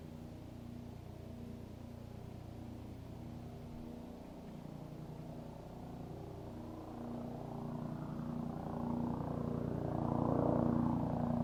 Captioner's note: sound of small aeroplane